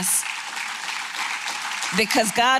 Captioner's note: applause